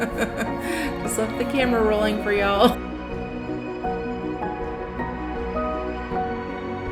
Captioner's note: laugh